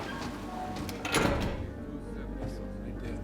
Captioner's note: door open close